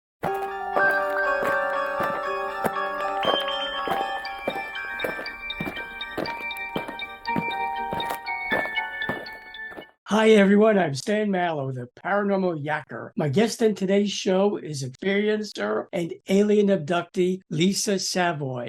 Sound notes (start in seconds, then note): 0.2 eerie music; 5.0 aliens marching